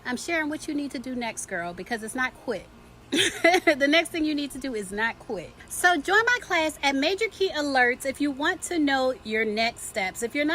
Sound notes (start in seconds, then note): 3.1 laughs